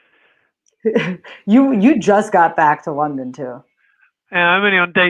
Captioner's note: chuckles